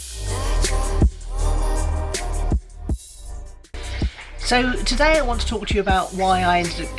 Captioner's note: none